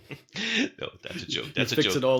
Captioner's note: laughs